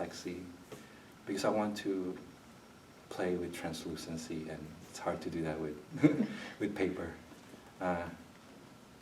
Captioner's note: laughs